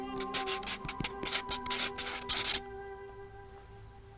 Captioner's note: pencil scratching